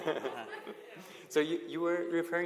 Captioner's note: laughter